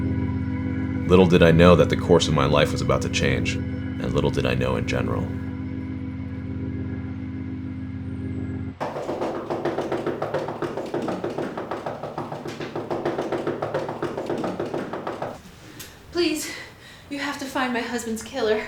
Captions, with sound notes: Little did I know that the course of my life is about to change, and little did I know in general (Prolonged Knocking) Please, you to have to find my husband's killer.